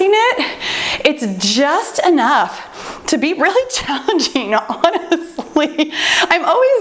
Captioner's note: laughs